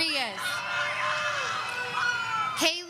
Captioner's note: audience screaming